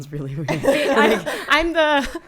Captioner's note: laughing